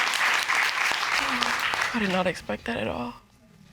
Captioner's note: sighs